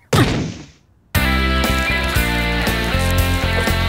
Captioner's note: crashing